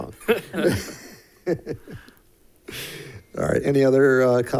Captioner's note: board members giggling